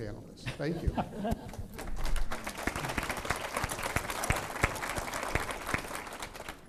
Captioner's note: applause